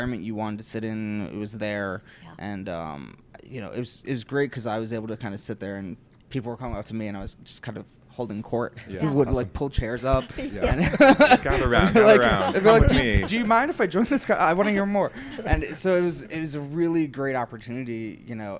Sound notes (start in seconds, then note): 10.3 laughs